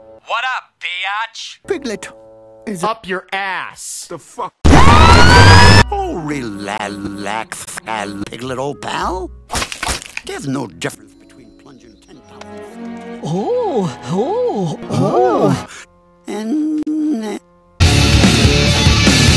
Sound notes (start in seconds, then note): 9.5 breaks Bones; 11.1 talking in background